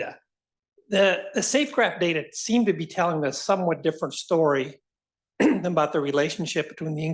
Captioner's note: cough